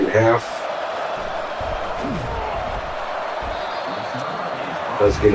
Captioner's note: crowd Noises